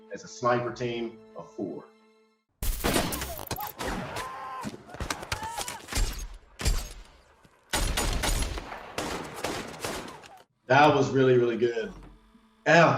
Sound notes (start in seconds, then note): 2.7 rifle shot; 3.2 people shouting; 4.8 gunshots